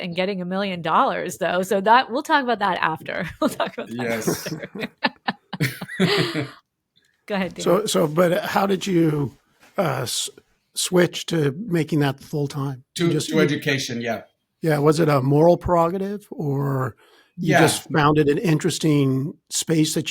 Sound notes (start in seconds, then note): 5.2 laughing